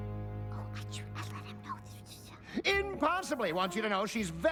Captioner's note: whispers